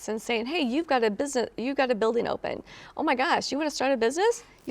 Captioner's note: none